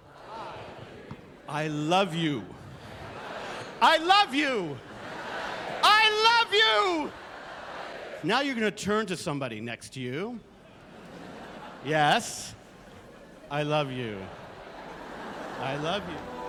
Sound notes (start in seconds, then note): 3.9 shouting; 6.0 yelling; 10.6 laughter